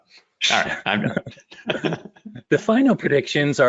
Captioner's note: laughter